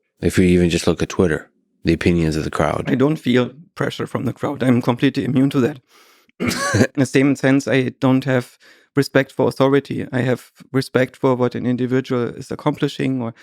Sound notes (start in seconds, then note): 6.4 coughs